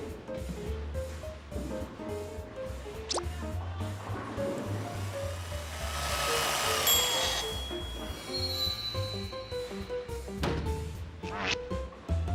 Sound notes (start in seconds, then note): 6.6 whirring, ding